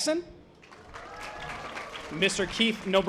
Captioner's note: audience applause